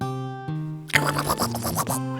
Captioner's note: cat noises